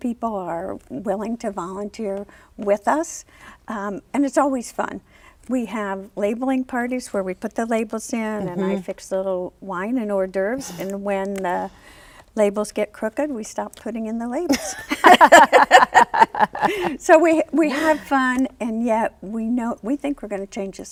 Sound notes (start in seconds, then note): 14.5 laughs